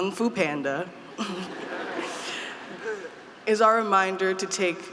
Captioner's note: group laughing